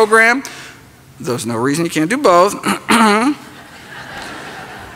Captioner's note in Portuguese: Limpa a garganta; risos